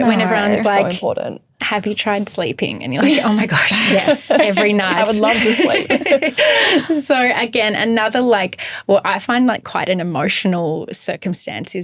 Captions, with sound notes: - When everyone's like- - So important- - Have you tried sleeping? And you're like, oh my gosh, yes every night. - I would love to sleep. (all laughing) - So again, another like, well, I find like quite an emotional circumstance